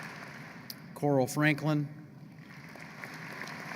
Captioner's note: applause